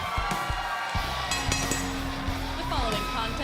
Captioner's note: bell ringing